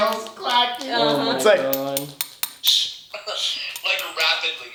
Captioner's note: tapping